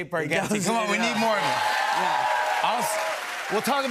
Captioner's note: cheers and applause